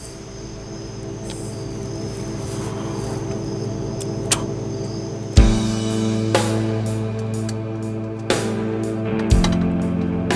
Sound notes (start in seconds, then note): 0.0 ethereal music; 4.0 Tex spits; 5.5 somber music